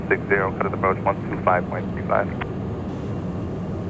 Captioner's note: radio chatter